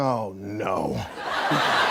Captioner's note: laughter